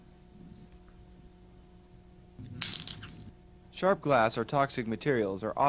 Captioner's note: utensil drops onto floor